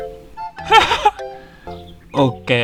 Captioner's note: laughter